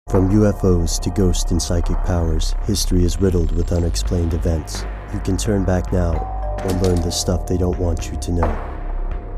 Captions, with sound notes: - [Voiceover] From UFOs to ghost and psychic powers, history is riddled with unexplained events. You can turn back now or learn the stuff they don't want you to know.